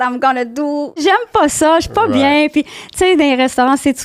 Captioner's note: in french